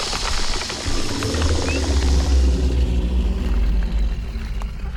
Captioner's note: snake hisses; snake rattles; snake growls